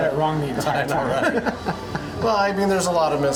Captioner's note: laughing